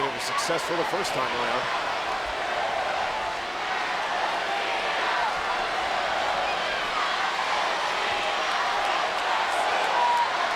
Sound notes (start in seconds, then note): 4.7 crowd chanting "Let's go Cena"